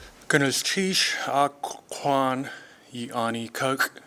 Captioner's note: speaking tlingit